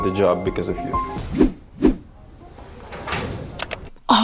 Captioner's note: call to action whooshes